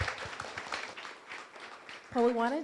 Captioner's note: applause